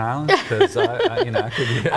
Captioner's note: laughs